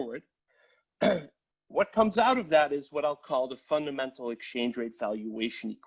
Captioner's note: cough